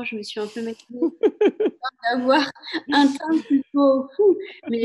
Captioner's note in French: rire